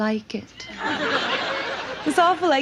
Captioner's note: audience laughs